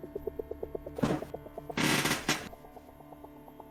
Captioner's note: someone's chair squeaks